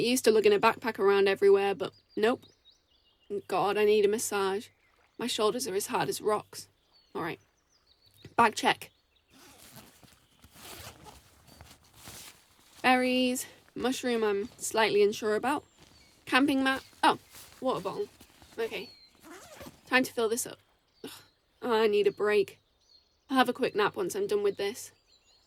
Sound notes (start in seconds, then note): 10.4 unzips bag; 20.6 zips bag up